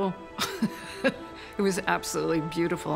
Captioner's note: chuckles